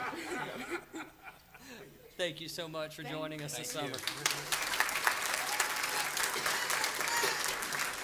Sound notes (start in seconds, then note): 3.9 laughter